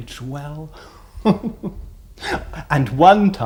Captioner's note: chuckles